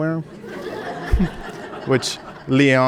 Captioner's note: audience laughing